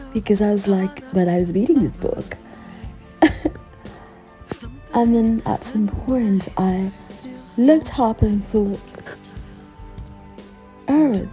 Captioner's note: giggle